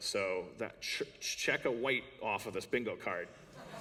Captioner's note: laughter